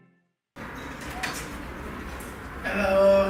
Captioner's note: keys clinking